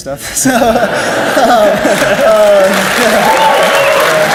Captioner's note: laughs; audience cheers and applauds